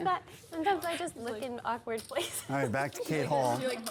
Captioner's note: laughs